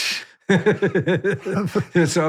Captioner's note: laughs